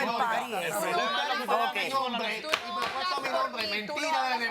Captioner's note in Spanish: Hablan al unísono